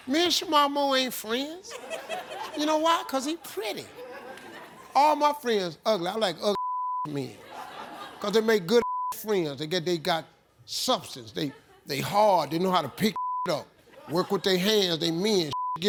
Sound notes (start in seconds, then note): 6.5 beep; 8.8 beep; 13.1 beep